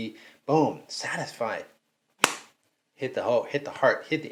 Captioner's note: smacking